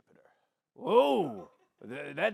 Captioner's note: gruffly